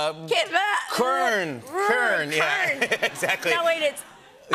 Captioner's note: laughter